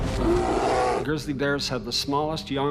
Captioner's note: bear growling